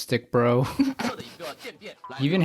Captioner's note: laughs